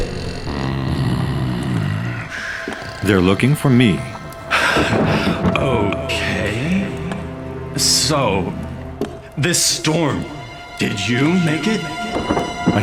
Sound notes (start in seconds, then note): 0.0 snoring; 5.1 sighs